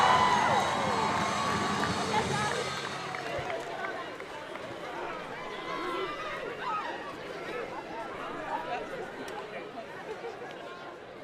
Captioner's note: applause